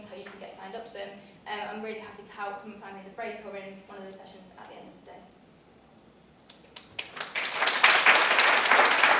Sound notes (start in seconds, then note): 6.5 clapping